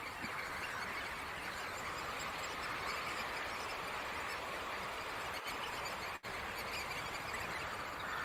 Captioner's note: knot flock sounds